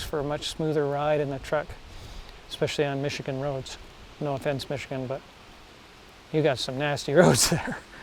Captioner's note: laughing